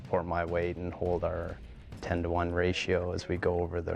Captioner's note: voiceover